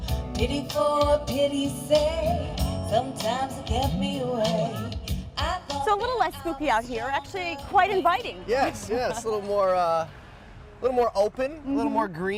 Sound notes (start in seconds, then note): 8.4 laughs